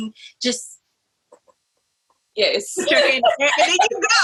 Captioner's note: laughs